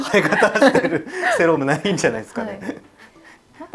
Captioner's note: laughs